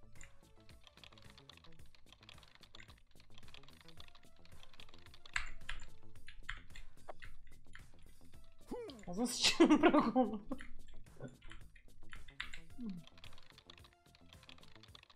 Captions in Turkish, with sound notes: (klavye sesi) Ağzına sıçarım birak onu. (gülerek)